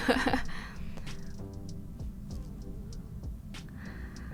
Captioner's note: laughing